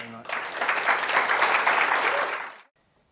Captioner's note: audience claps